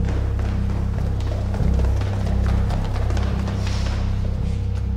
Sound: loud quick footsteps

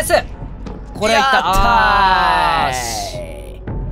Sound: triumphant exclamations

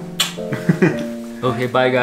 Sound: giggles

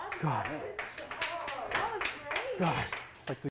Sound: clapping

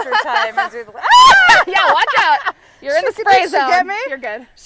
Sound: scream

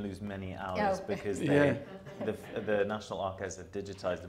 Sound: audience chuckling

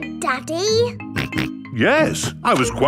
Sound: snorts

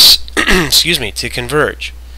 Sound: throat clearing

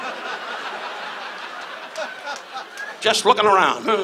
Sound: audience laughs

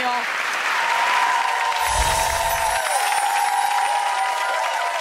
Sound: audience cheers

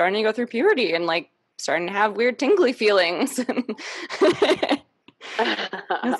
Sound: laughs

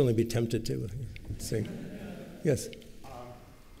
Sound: laughter

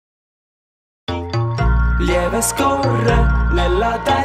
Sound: tick-Tock

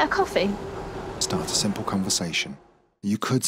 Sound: voiceover

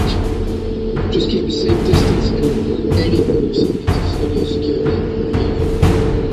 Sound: tour guide speaks over loud speaker

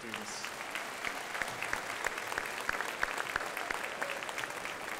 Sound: crowd applauding

